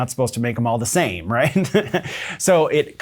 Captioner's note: laughs